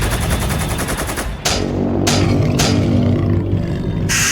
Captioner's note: steps thudding; beast shrieks